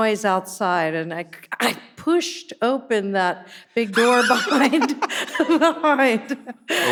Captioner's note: chuckles